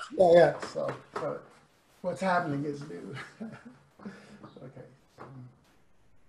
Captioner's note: laughs